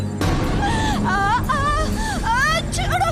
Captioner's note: groans